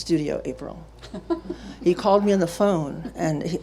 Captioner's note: laughing